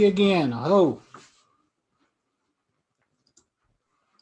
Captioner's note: speaks indigenous language